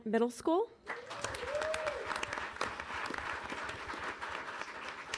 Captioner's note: audience applauding